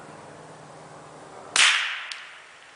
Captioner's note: gunshot